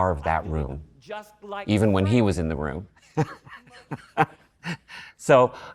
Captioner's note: laughs